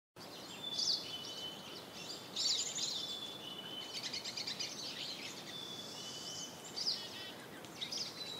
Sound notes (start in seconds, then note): 0.2 birds tweeting